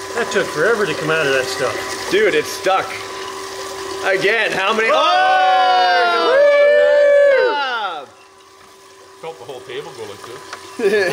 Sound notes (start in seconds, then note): 4.8 exclaims delightedly; 4.8 whooping; 10.9 laughing